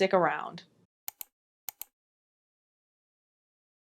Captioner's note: mouse clicks